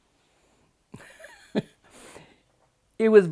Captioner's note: laughing